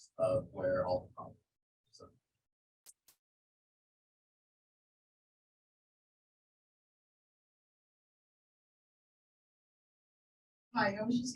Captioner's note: audio drop